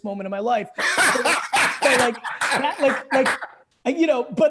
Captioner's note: laughing